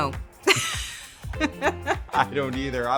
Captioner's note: both chuckle